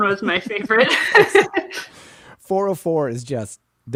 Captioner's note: laughs